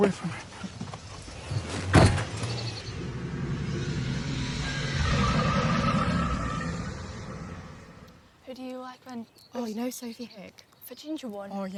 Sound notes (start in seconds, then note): 0.6 tires screeching